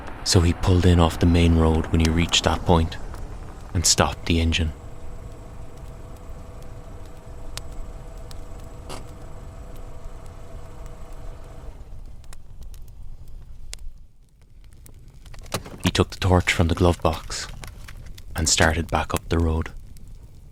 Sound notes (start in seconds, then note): 5.0 sound of car pulling in on dirt road; 13.7 sound of rummaging in glovebox followed by car door opening and closing